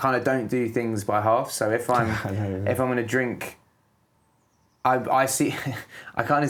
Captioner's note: laughs